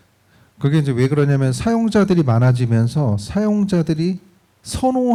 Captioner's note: speaking korean